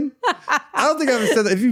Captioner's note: laughing